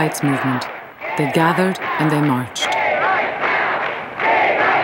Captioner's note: crowd